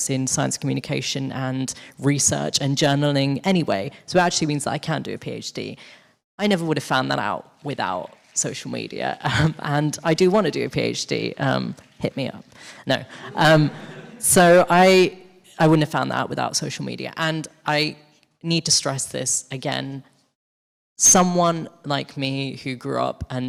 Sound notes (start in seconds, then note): 13.1 audience laughing